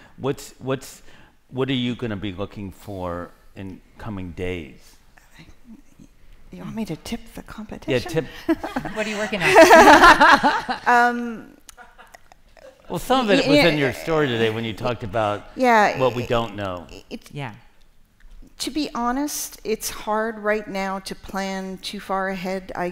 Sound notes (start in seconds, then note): 10.2 laughter